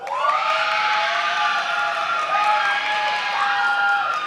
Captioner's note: many applauding